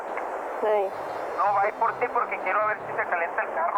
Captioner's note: non-english speech